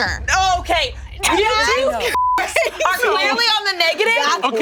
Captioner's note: beep